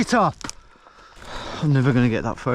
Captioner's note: sighing